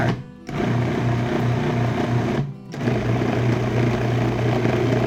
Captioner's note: processor whirring